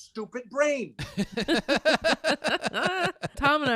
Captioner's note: laughing